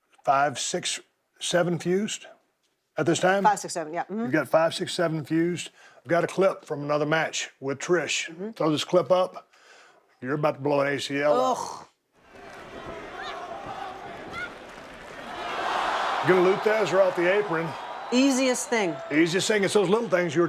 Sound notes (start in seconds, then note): 12.2 crowd members chanting